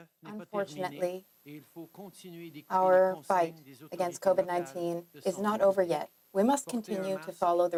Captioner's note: speaking French